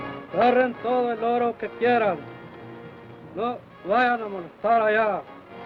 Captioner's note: Chief speaks foreign language